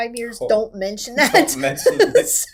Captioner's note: laughing